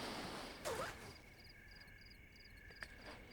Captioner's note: crickets chirping